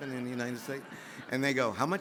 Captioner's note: audience laughs